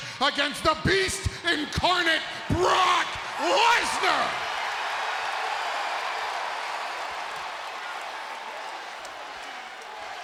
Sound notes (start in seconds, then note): 4.7 crowd cheering